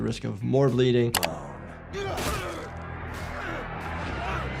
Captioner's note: grunting